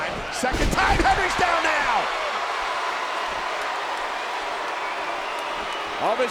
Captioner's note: applause